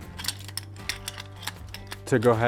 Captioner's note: chain strainer clinking